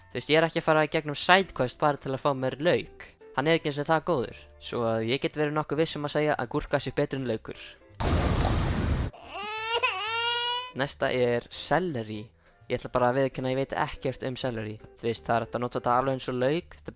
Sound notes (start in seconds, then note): 8.0 boom followed by baby crying